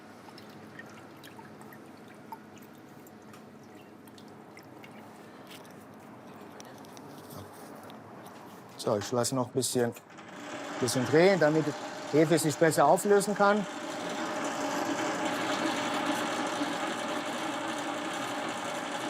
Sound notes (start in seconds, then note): 14.2 loud machine rattle